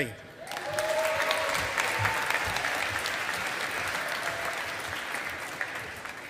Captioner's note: audience applauding